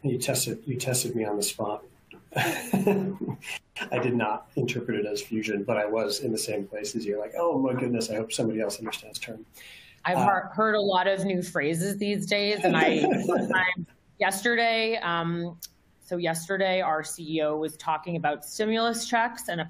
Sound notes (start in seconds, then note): 2.3 laughs; 12.5 laughing